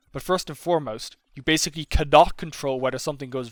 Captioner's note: none